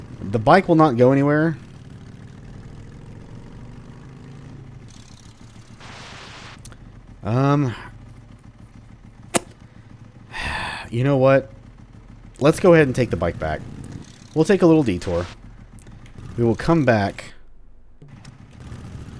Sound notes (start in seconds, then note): 10.2 thinking sounds followed by a sigh